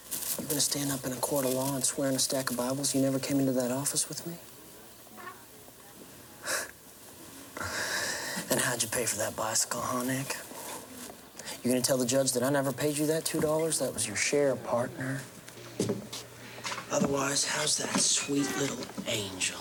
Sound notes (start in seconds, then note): none